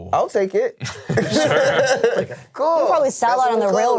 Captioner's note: all laughing